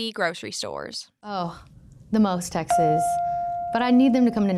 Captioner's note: chime pings